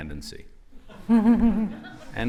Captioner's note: laughter